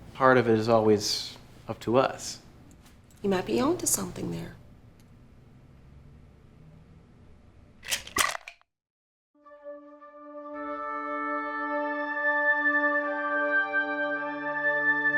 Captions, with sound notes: Part of it is always up to us. You might be onto something there. (pills rattle) (pensive music)